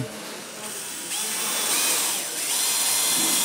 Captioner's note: Bohrgeräusch